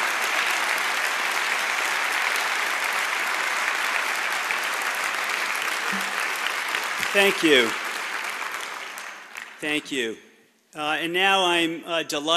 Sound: cheers and applause

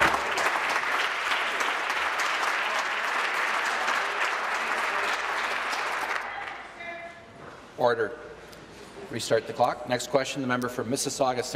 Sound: applause

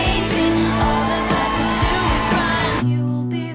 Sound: crowd singing in unison; fans shrieking

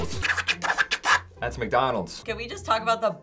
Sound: imitates record scratching

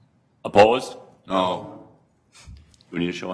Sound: multiple voices

